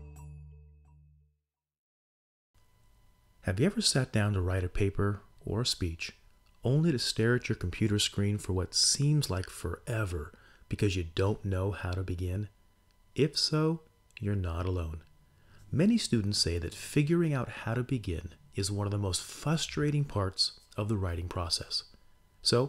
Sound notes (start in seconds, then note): 3.4 voice-over